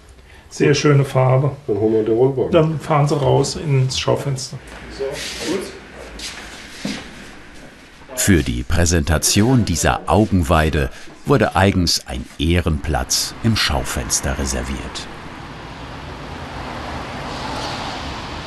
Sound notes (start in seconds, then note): 15.8 traffic noise